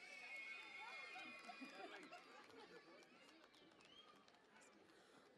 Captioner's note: cheering and Applause